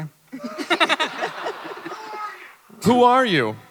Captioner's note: panelists and audience chuckling